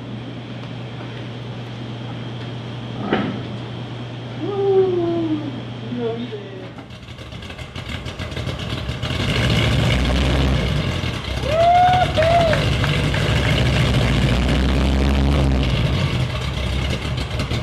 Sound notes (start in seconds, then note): 7.5 engine starting; 14.6 engine rumbling